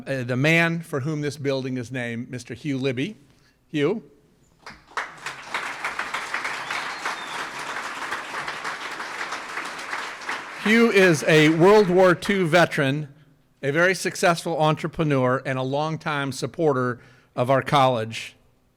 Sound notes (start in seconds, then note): 4.6 audience applauds